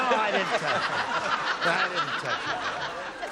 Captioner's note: laughter